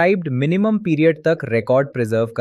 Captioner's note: thoughtful